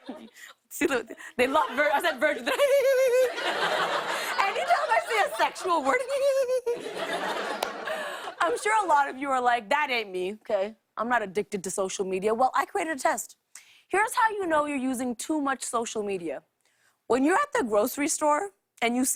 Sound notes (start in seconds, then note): 2.4 laughs; 6.0 laughs